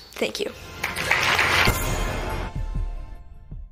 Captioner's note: applause